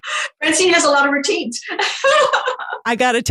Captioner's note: laughing